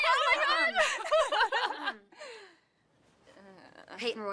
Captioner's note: laughter